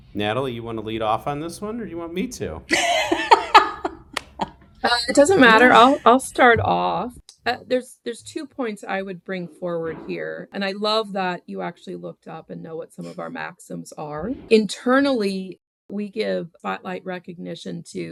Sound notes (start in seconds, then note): 4.8 laughs